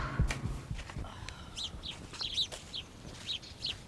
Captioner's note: exhales sharply; birds chirping